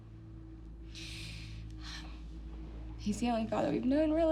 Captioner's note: breathes deeply